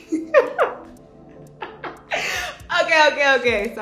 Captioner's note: laughing